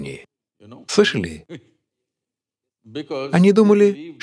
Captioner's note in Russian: Смеется